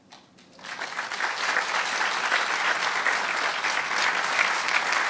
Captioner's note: audience clapping